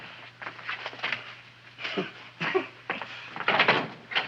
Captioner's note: Wilbur chuckles